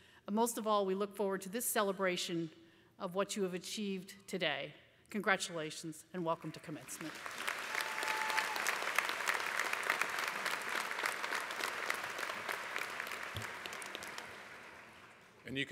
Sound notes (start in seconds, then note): 7.7 applause